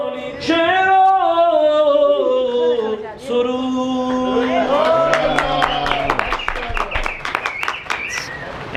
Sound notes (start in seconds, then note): 4.1 audience clapping